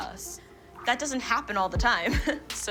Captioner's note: laughs